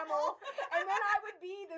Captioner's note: laughing